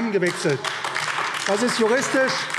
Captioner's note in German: Beifall AfD